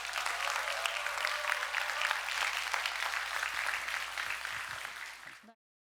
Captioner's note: applause